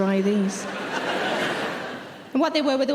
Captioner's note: audience laughing